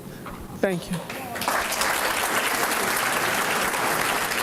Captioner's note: applause